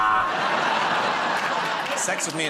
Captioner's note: laughter